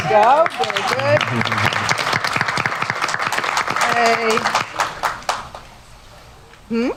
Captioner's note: applause